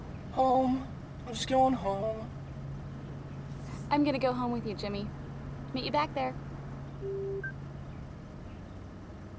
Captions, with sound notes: (in robotic voice) Home. I'm just going home I'm going to go home with you, Jimmy Meet you back there! (phone beeps)